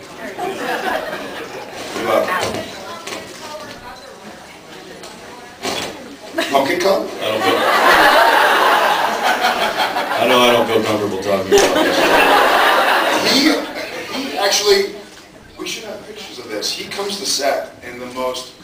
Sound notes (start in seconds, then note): 7.2 laughs